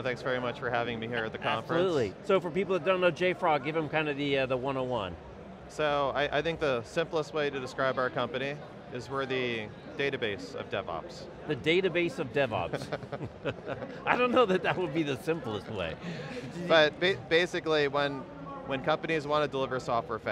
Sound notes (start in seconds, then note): 12.7 laughs